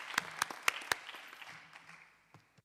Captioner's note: applause